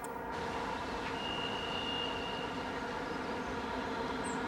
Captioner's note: engine zooming